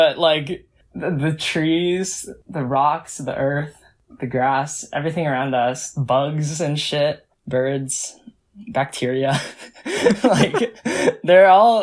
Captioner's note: both laugh